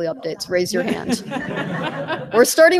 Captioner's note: laughter